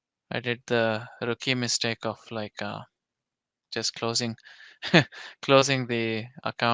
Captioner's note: chuckles